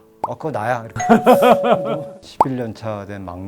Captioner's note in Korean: 웃음